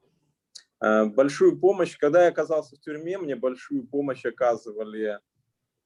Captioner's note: speaking Russian language